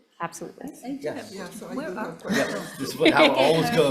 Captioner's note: all laughing